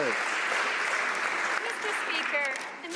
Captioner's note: some Applause